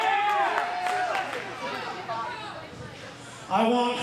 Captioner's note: cheer